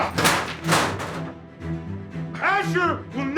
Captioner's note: chairs crashing